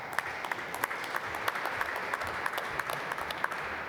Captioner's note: applause